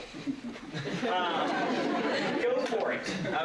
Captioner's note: laughter